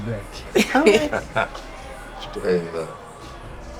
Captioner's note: June and Penn laughing